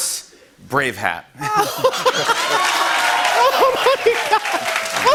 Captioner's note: laughing; laughter; laughing